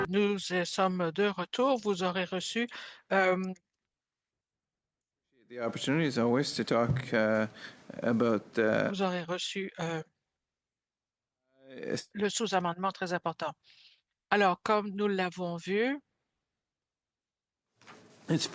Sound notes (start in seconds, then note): 10.6 speaking in French